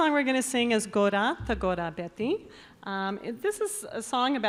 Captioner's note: announcer speaking in Basque